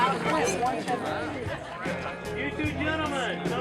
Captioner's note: several talking